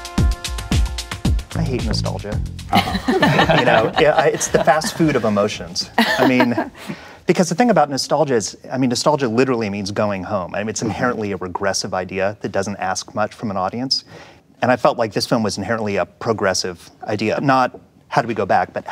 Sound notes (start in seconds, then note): 2.7 laughter